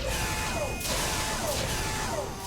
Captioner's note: mechanical whir